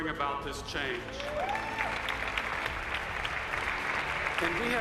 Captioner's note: cheers and applauses